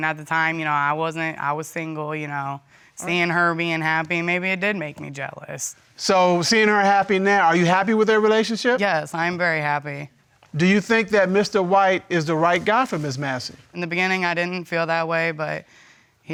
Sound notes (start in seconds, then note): none